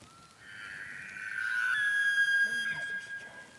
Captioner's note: elk bugles